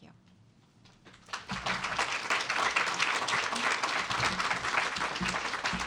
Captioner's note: applause